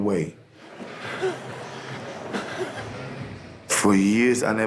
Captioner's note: heavy breathing